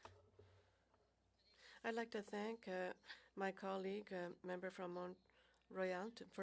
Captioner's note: speaking French